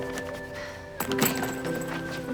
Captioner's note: laughs